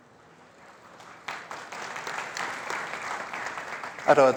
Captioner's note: applause